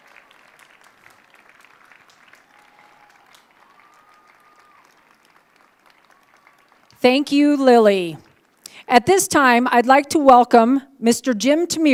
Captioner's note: applause